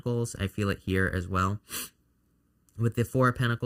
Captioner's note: sniffling